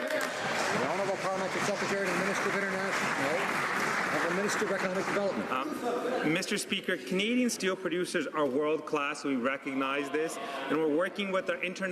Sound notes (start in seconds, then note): 2.9 some Applause